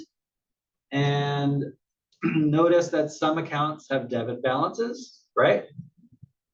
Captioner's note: cough